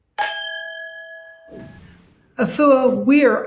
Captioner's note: glass dings